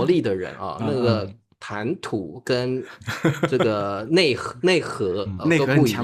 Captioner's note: haha